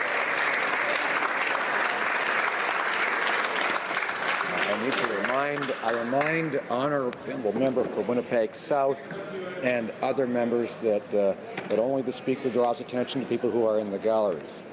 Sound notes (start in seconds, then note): 3.5 some Applause